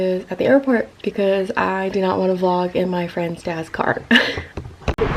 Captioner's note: laughs